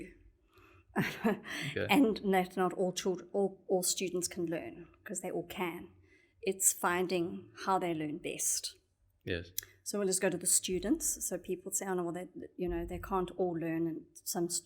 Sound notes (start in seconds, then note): 1.3 laugh